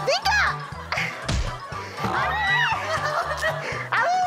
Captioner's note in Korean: 퍽!